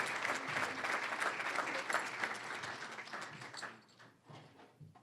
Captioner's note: cheering, applause; applause